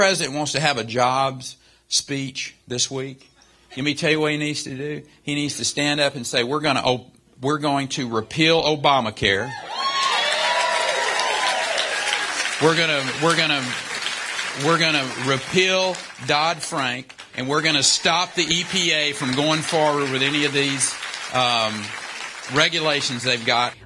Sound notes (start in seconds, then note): 11.5 cheering and applause